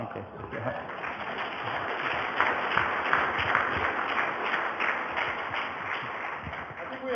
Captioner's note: audience applause